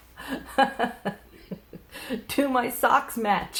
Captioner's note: laughs